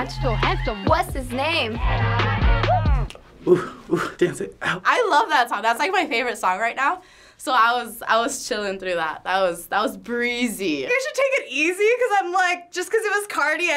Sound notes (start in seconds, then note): 1.2 singing along; 2.6 snapping fingers; 3.4 huffing